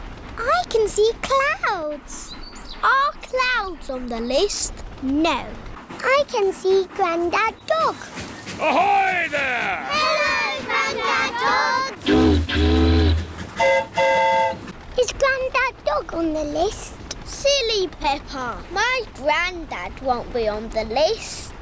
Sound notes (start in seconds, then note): 12.0 boat horn honks; 12.0 train horn toots